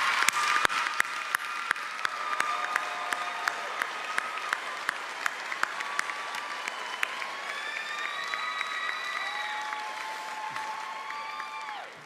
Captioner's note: cheers and applause